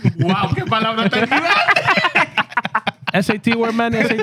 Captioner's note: laughing